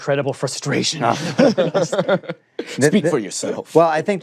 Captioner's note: laughter